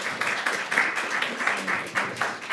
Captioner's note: applause